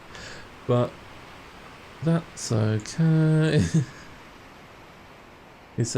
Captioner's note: laughs